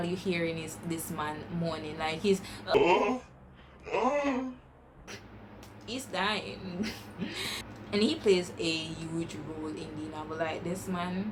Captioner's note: weird moaning sounds